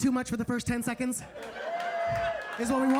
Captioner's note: audience laughing